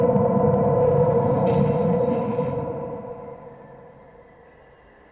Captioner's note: electricity crackling